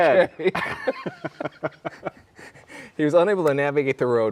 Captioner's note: both laughing